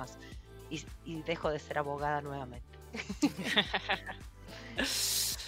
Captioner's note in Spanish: risas